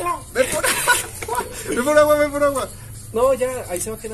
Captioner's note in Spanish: llorando